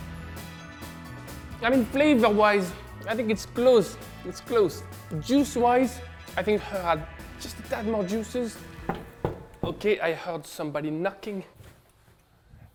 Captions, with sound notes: Flavor wise, I think it's close It's close. Juice wise, I think her had just a tad more juices. (door knocking) Okay, I heard somebody knocking.